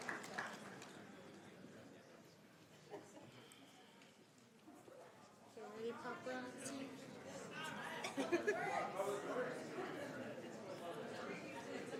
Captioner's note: applause